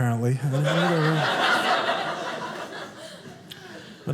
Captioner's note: audience laughing